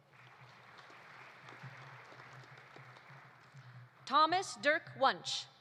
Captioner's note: audience applauding